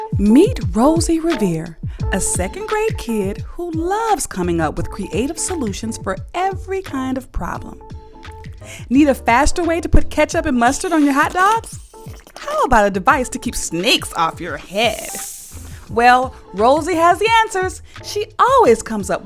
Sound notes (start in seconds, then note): 11.9 squirting sound; 14.6 hissing sound